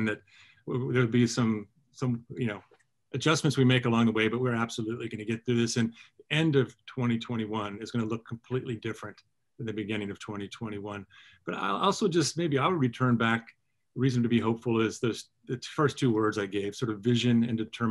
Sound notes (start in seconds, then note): none